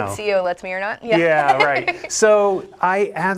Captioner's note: laughing